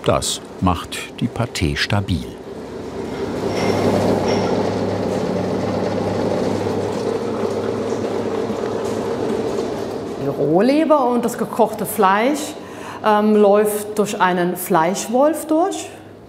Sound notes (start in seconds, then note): 3.6 machine rattling